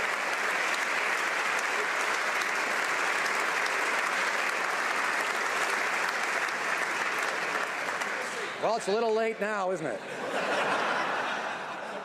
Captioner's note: some Applause